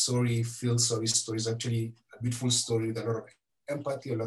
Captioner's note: foreign language